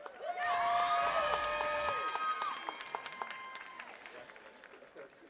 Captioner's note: attendees cheering and clapping